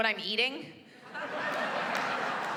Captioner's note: laughter